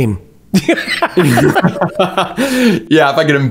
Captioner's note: both laughing